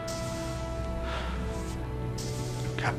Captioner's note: sigh